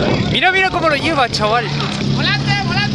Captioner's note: wheel dancing all over the place